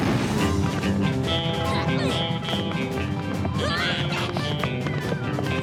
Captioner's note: western music; Captain Flamingo grunts